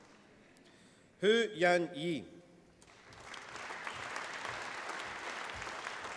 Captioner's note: applause